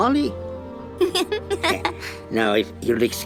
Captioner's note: giggling